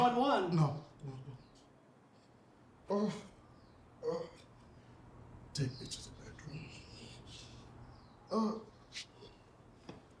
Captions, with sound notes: No, no don't. [Groans] Take me to the bedroom.